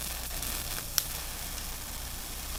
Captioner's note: crackle and Pop